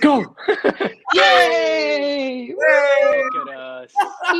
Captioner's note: all cheer